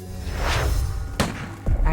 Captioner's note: gun shot